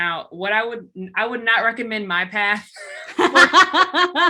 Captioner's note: laughs